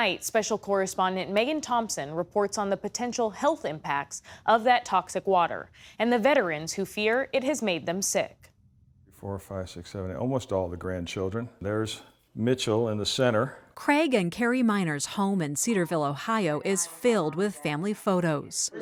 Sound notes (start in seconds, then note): 14.2 voice-over